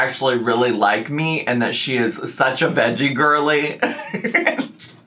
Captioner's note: laughs